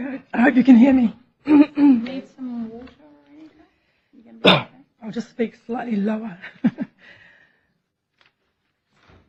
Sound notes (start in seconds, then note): 4.4 cough